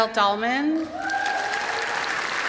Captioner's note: applause; cheer